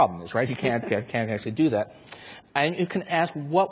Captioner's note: chuckles